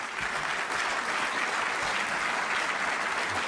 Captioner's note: applause